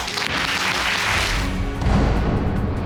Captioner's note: audience clapping